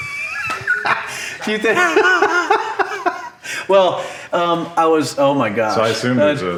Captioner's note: laughing